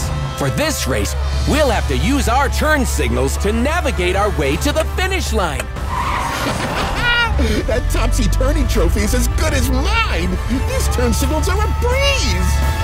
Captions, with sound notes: For this race, we'll have to use our turn signals to navigate our way to the finish line. [laughing] That Topsy Turney Trophy is as good as mine. These turn signals are a breeze.